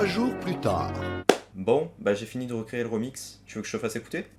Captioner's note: clap